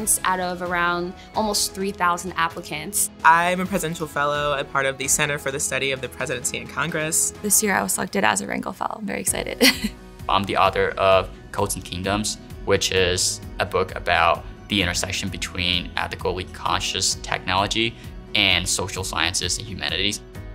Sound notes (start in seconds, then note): 9.6 chuckles